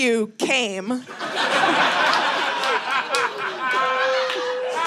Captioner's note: audience laughing